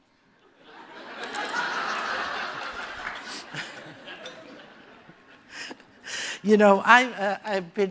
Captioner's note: laughter